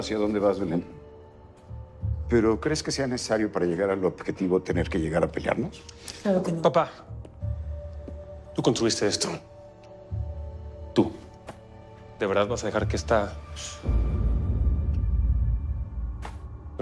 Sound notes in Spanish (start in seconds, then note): none